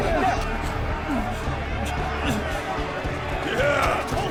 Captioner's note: crowd clamoring